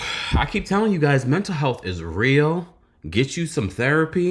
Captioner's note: sigh